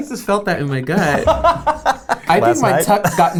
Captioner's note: laughs